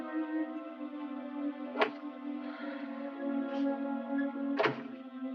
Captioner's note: door clicking